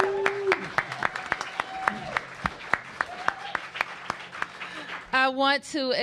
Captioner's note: cheers and applause